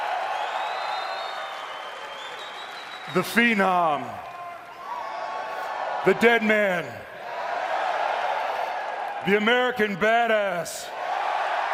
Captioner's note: cheers and applause